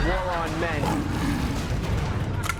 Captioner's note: deep, distorted growling